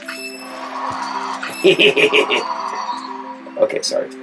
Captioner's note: laughing